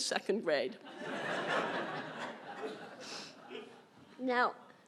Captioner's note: laughter